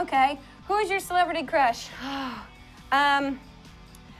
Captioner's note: sighs